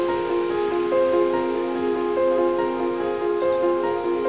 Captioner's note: leaves rustling; somber music; birds chirping